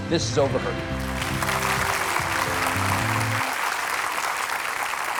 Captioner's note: audience applauding